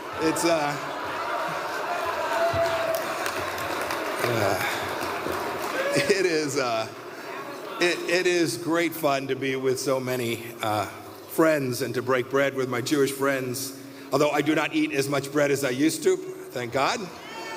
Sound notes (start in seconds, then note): 6.2 applause